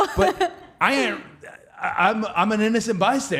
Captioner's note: Cody stammering